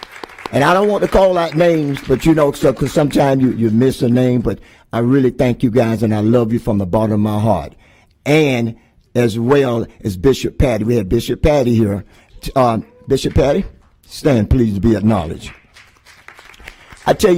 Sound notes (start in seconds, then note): 4.2 applause